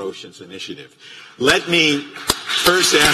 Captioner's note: applause